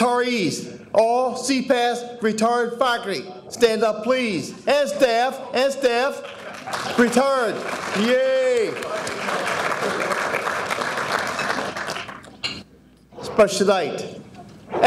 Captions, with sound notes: Retirees, all CPASS retired faculty, stand up please, and staff, and staff, retired, yay! (audience applauding) Special night.